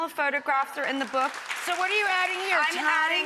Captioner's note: audience clapping